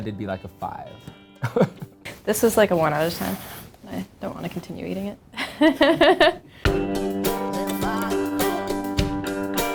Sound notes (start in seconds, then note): 1.7 laughs; 5.4 laughs; 6.7 upbeat music